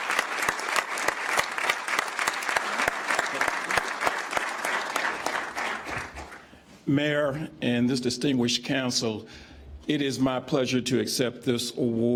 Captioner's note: applause